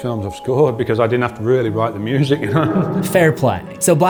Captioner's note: laughs